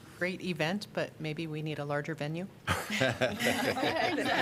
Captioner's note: laughter